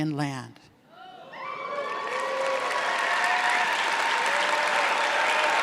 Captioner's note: audience clapping and cheering